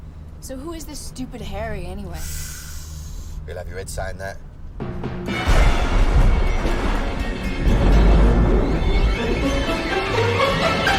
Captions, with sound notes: SO WHO IS THIS STUPID HARRY, ANYWAY? ( sighs ) HE'LL HAVE YOUR HEAD SAYING THAT. ( thunder rumbling )